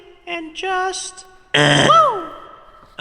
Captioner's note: buzzer